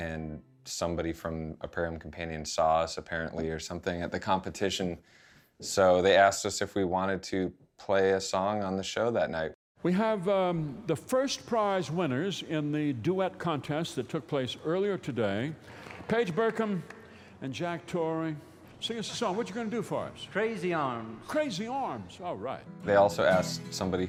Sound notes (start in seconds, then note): 10.6 voiceover; 22.0 voiceover